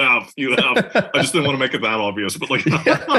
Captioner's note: laugh